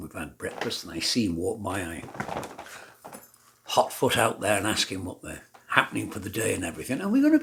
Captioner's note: drumming feet